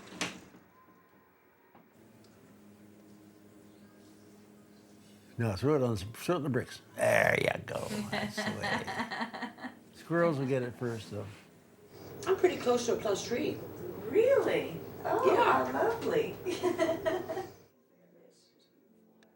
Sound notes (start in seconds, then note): 7.9 laughs; 16.0 laughs